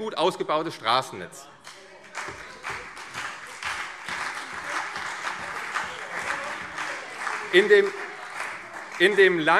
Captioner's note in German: Beifall CDU und Freie Demokraten - Zurufe DIE LINKE